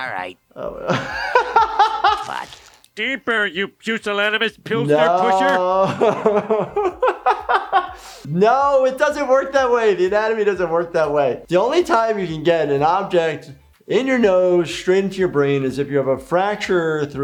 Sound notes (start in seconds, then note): 0.7 doctor laughs; 4.8 doctor laughs